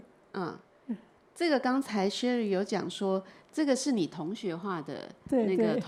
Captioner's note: Mandarin